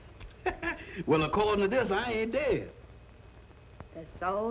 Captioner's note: laughs